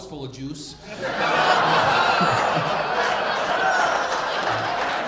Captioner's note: audience laughing